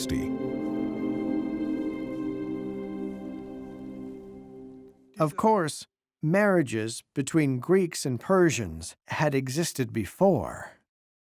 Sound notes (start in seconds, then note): 5.4 in German